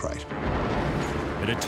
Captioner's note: thunder